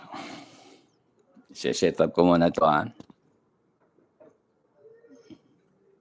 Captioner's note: sighs